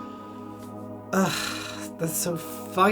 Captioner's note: groans